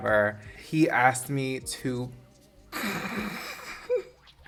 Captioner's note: laughs